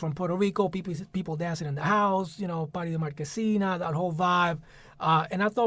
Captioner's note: spanish